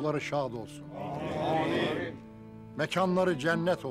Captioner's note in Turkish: Hep bir ağızdan